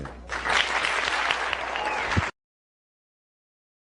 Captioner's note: applause